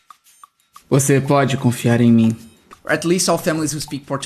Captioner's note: speaking portuguese